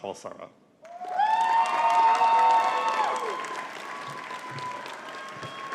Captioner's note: audience cheering and clapping